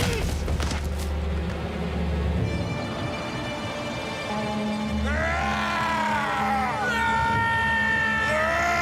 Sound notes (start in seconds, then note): 5.0 triumphant yelling